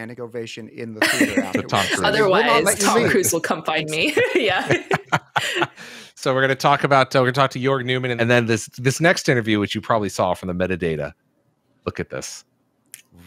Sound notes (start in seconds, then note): 4.0 laughs